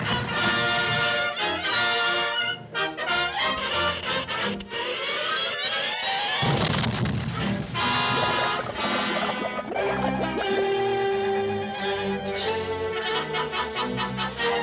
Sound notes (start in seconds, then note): 0.0 triumphant music; 6.4 explosion booms; 9.9 light dramatic music